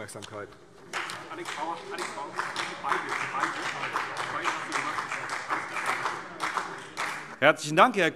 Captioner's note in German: Beifall CDU und BÜNDNIS 90/DIE GRÜNEN